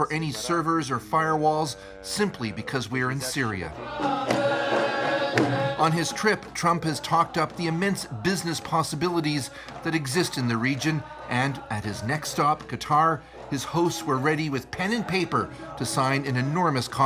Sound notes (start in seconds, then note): 1.4 foreign language